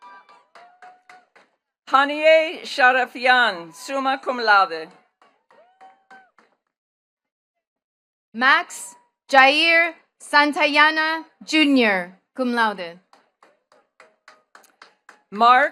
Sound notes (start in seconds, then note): 0.0 attendees cheering and clapping; 6.1 attendees clapping; 13.0 attendees clapping